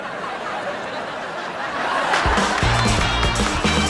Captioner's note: clapping